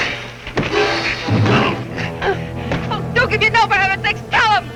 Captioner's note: hand hitting